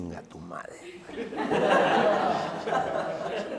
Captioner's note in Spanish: Risas